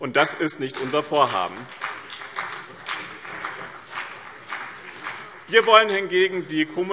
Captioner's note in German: Beifall BÜNDNIS 90/DIE GRÜNEN und CDU